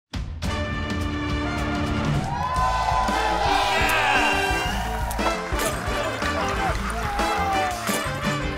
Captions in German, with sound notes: (Spannungsvolle Musik) (Jubel) Yeah! No, no, no, no!